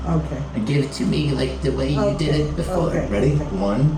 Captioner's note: old lady voice